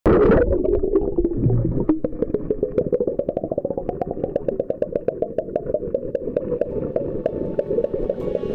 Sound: underwater sound

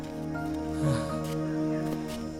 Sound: sighs

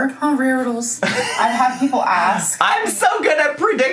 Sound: laughing

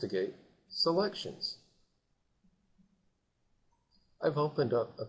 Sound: silence

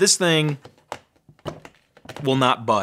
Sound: fingers thudding

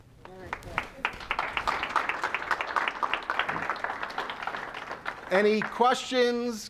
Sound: audience claps

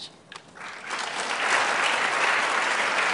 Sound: applause

